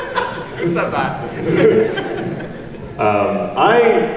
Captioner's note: laughs